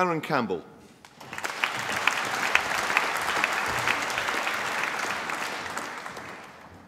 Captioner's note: applause